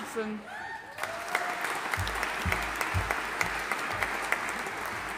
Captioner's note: audience applauding